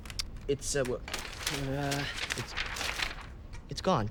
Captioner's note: papers rustling